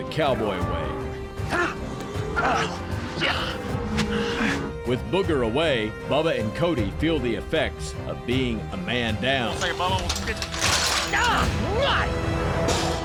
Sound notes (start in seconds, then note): 9.5 clanking sound; 11.6 screams